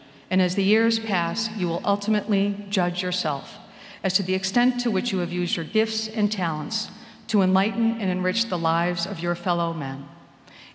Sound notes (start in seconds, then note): none